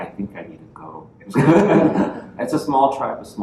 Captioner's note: laughter